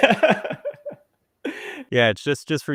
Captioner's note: people laugh